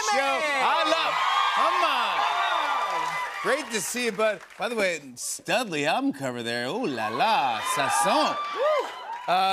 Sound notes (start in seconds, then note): 0.0 cheers and applause